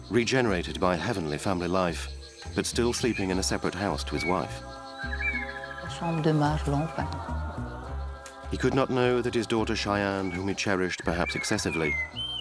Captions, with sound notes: regenerated by heavenly family life, but still sleeping in a separate house from his wife. [Fench spoken audio] He could not know that his daughter Cheyenne, whom he cherished, perhaps excessively,